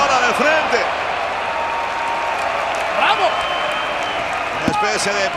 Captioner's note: applause